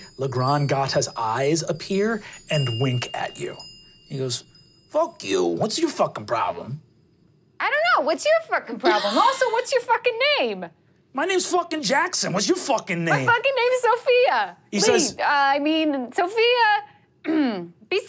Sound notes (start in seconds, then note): 17.2 clears throat